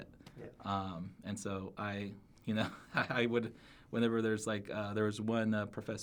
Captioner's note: laughs